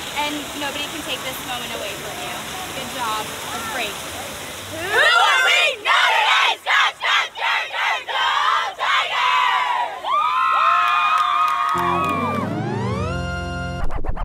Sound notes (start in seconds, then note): 10.1 cheering; 12.2 video game music